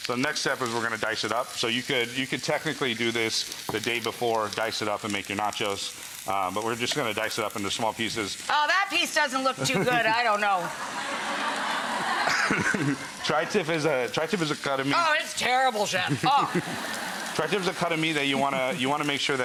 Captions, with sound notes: The next step is we're going to dice it up so you could technically do this, the day before. Dice it up and make your nachos. We're just gonna dice it up into small pieces. Ah that piece doesn't look too good. I don't know. (Audience laughing) (Instructor laughing) Tri-tip is a cut of meat-- Ah that's terrible, chef. Awful. Tri-tip is a cut of meat that you wanna make sure